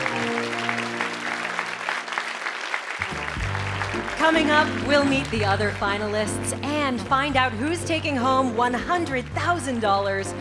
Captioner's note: applause